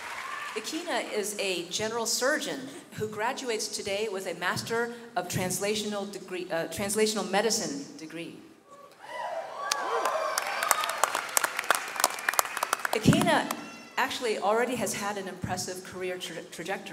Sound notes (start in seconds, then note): 8.9 audience cheering and clapping